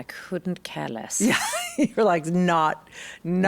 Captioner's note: laughs